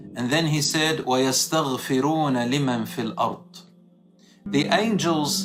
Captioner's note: Arabic